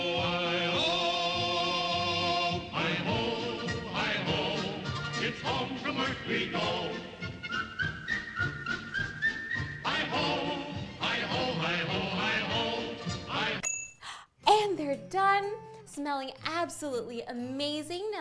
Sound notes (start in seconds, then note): 7.4 whistling; 13.6 bell dinging